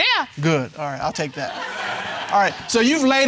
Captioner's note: all laughing